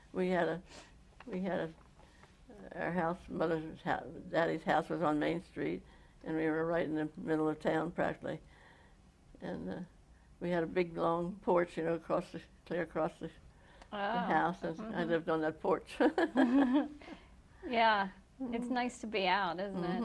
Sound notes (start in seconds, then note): 16.0 laughter